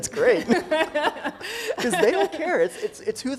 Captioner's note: laughing